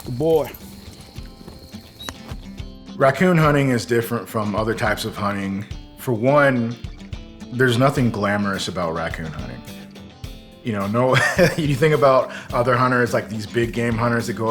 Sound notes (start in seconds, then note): 0.8 upbeat guitar music; 11.1 laugh